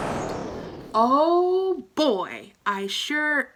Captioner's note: whooshing